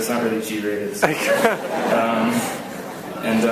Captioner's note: laughs